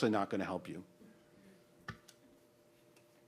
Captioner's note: background chatter